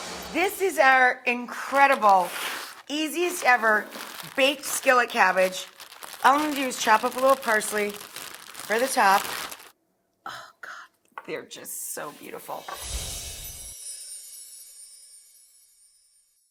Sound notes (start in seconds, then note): 0.2 note swooshes; 1.6 plastic scrapes; 12.9 musical note swooshes